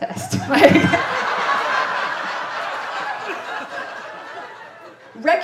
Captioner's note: sniggers; audience laughing